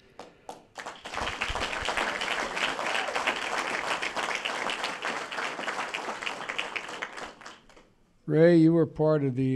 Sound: applause

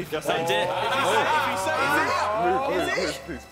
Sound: loud chattering

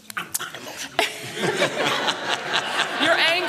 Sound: laughter

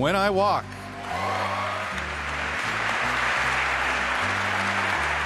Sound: applause

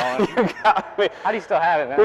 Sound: laughing

